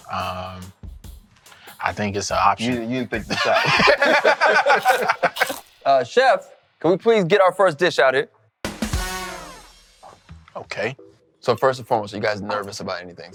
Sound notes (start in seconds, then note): 3.2 laughing; 4.7 biting sound; 8.7 jazz music